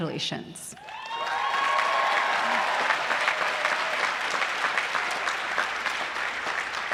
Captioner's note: applause